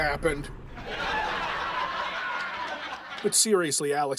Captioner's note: laugh track